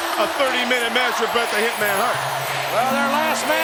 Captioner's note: audience chanting